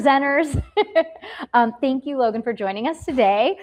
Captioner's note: laughs